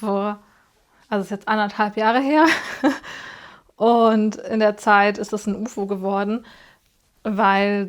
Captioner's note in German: gelächter